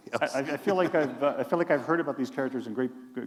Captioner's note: laughter